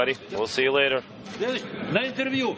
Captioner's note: multiple voices speaking